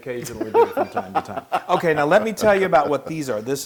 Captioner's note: laugh